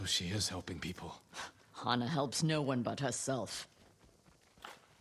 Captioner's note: laugh